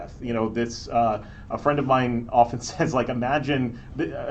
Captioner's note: laughs